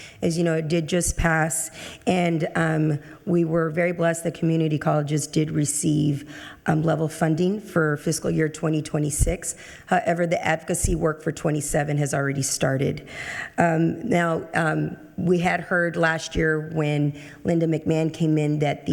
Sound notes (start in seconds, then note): none